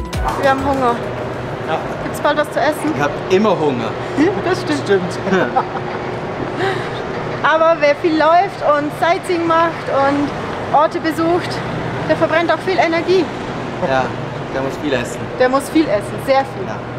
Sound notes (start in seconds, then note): 5.2 laughter